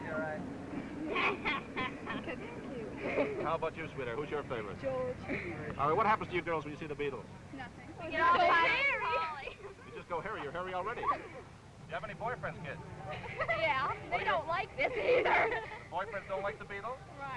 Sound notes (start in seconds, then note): 0.8 girl laughing